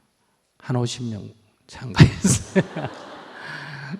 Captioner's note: laughter